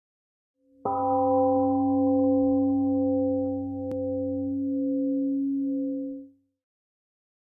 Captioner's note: temple gong rings and fades 🎵